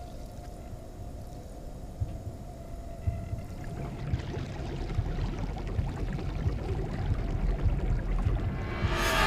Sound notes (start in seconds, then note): 3.2 liquid bubbling; 3.6 dramatic music